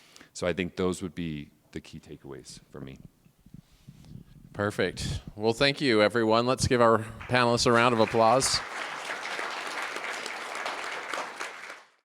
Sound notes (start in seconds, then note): 8.7 applause